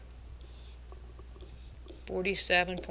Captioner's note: pen scratching